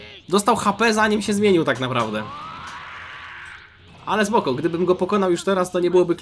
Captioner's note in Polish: krzyk